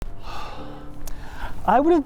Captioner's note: sighs heavily